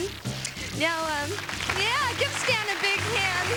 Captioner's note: applause